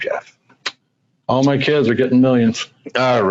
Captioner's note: laughs